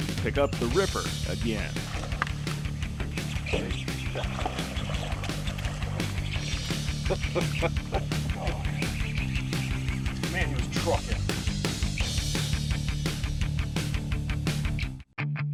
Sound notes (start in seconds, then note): 1.7 fish splashing; 4.1 reel cranking; 7.4 fish splashing; 8.1 chuckling; 10.0 reel cranking